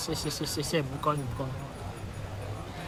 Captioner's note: Cantonese